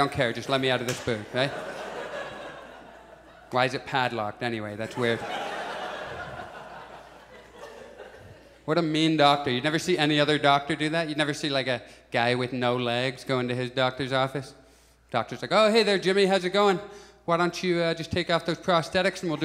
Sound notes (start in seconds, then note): 0.4 audience chuckles; 4.8 audience laughs